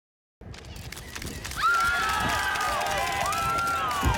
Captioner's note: fans screaming